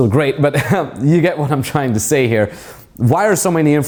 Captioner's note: laughs